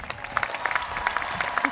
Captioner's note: applause